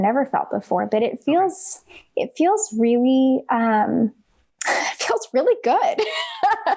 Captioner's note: laughs